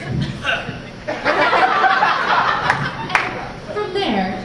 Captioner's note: Samwise: *coughs